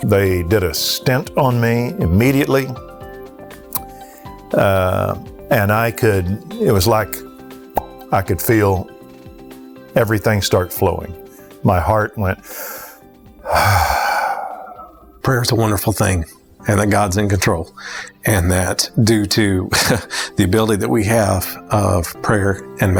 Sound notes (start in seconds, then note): 7.7 pop; 12.4 breathes in, breathes out